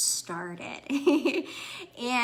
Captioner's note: chuckles